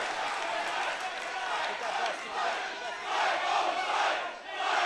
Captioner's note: audience chanting